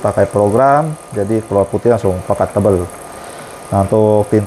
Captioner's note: printer machine noise